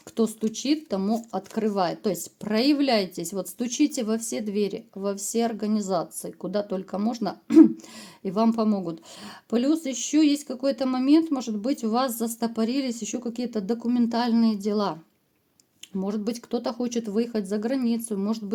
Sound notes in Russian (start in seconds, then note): 7.5 откашливается